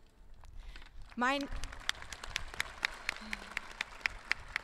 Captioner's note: audience clapping